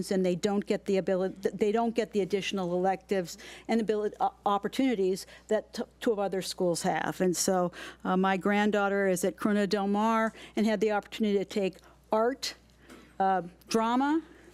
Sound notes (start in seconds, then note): none